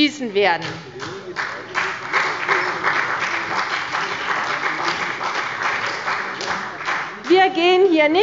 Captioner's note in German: Beifall bei der CDU und dem BÜNDNIS 90/DIE GRÜNEN